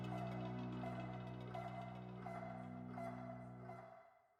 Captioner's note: rhythmic beating